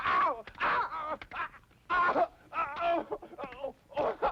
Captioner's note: grunting